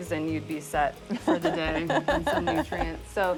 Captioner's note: laughs